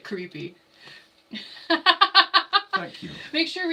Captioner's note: laughing